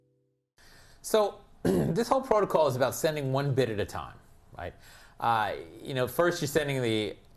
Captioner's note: cough